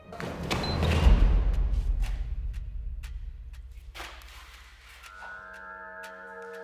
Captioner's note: light dramatic music; timer beeping